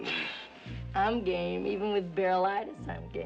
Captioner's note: kıkırdama